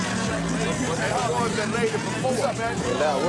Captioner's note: chattering